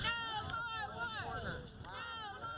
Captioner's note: nats of protest